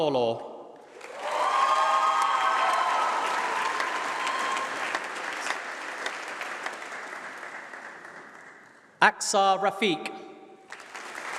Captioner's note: applause